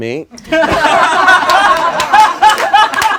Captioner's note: laughing